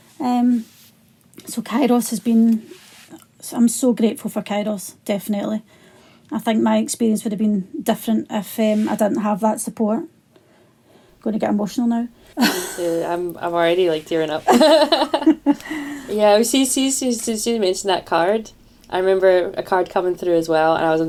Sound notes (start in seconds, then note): 12.3 laughs; 14.4 laughter